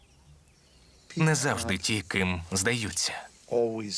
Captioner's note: chuckles